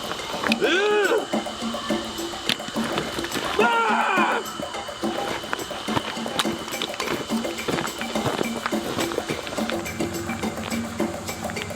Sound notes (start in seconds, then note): 0.6 Og grunting; 3.5 Og yelling; 5.1 upbeat music continues